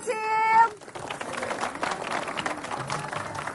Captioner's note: applause